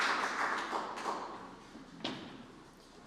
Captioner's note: applause